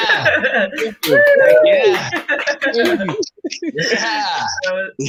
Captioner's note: crowd cheering